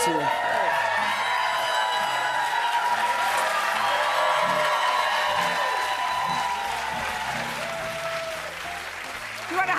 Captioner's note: cheers and applause